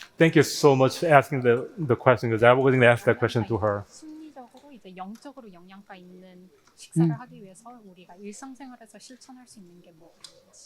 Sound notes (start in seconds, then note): 4.2 both speaking in foreign language